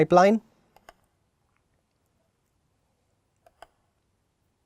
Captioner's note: mouse clicking